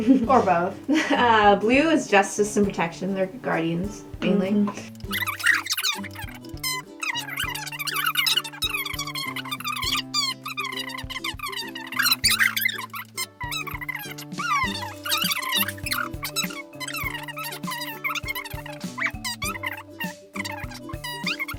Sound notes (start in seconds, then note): 5.0 audio sped up